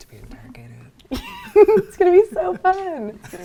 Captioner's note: laughing